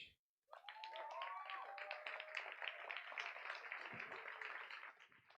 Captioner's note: applause